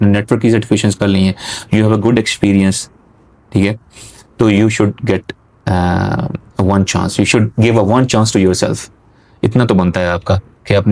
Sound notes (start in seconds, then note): none